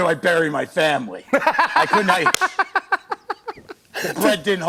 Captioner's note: laughter